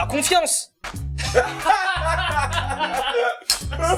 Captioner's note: French laught